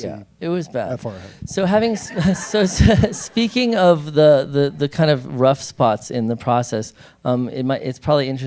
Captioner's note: laughter